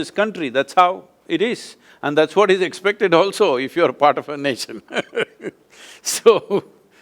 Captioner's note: laughs